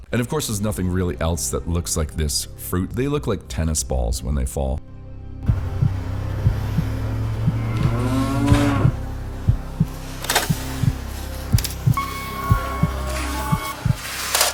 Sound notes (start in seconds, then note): 4.8 intense music; 5.4 heartbeat thumping; 10.4 tennis racket thumps